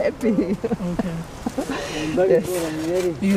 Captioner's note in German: Lachen